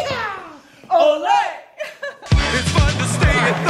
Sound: laughs

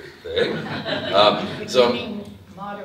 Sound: audience laughs

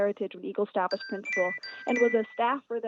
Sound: chime

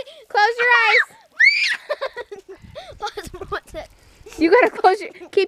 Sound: screams

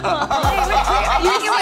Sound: group laughs; upbeat music

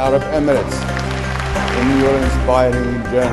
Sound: applause

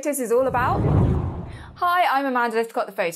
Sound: hard whooshing

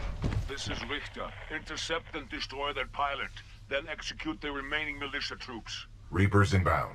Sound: radio

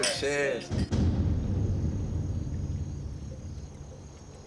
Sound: insects chirping; dramatic drumming

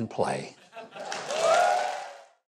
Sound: audience laughing and cheering

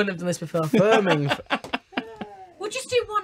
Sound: interviewer laughs

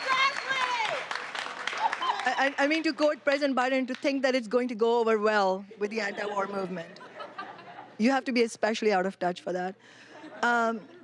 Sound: applause

